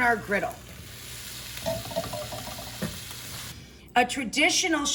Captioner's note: food sizzling in pan